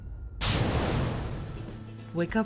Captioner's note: collision sound; computer voice